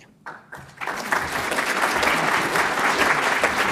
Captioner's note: applause